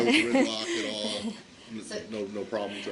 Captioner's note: laughter